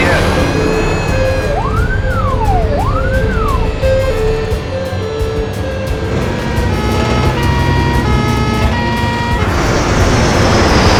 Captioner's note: sirens